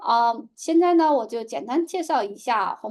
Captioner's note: speaking chinese